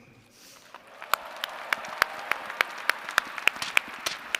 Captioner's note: applause & cheers